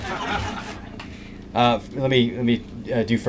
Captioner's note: laughter